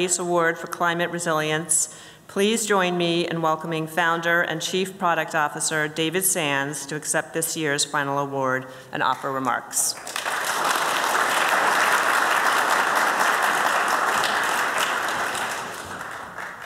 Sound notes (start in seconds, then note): 14.1 applause